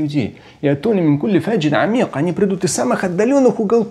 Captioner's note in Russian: говорит на арабском